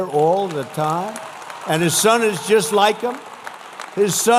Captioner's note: applause